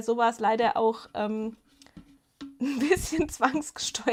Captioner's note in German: Gelächter